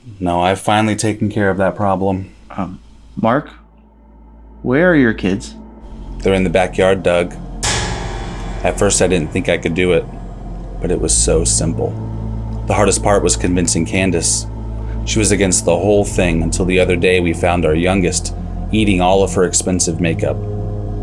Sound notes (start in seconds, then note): none